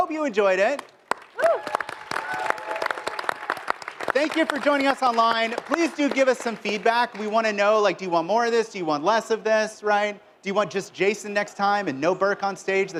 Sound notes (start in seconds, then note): 4.2 applause